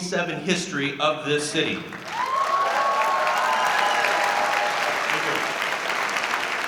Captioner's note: audience cheering